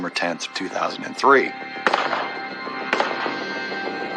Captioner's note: gunshshotots